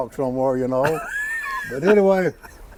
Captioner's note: host laughing